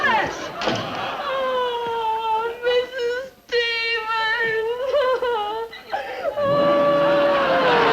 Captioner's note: crying